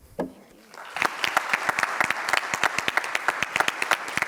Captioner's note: audience applauds